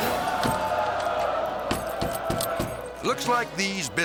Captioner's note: audience laughing; door impacts pounding